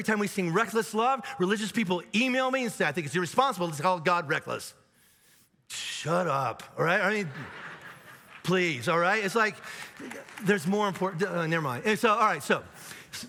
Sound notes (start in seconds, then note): 7.0 audience laughs; 9.2 audience applauds